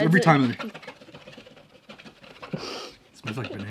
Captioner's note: scratching the table